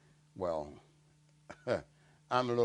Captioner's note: laugh